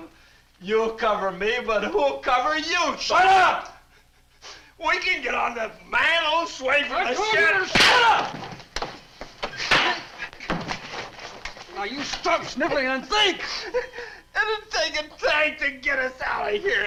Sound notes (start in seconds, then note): 7.7 hand slaps; 9.5 hand slaps